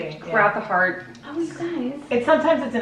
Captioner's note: whispering